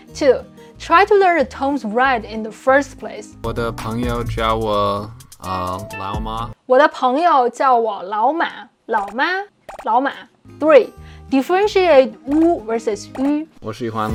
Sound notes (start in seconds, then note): 0.0 speaking in Mandarin; 3.5 speaking in Mandarin; 13.9 speaking in Mandarin